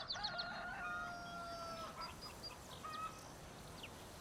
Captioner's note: rooster crowing